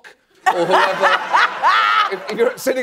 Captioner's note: laughing